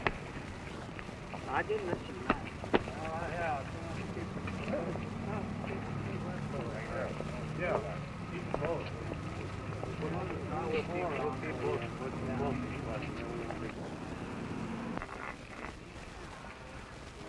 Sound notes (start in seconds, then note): 0.6 background conversations